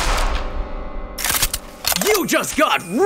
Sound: gun shots popping; gun clicks

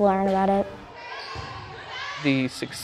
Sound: kids shouting

